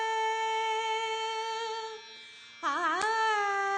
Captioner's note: none